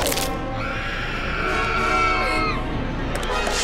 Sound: screaming

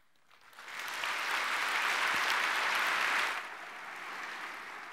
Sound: audience clapping

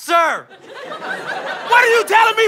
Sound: audience laughter

